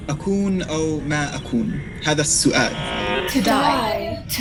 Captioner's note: boy speaking foreign language